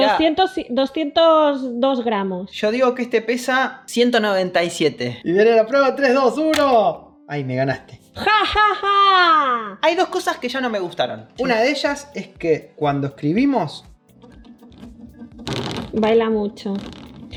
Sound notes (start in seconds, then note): 8.2 evil laugh